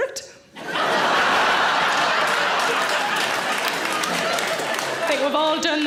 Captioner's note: audience laughing and clapping